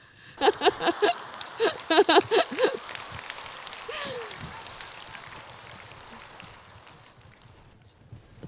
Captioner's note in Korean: 질문자 웃음, 청중 웃음과 박수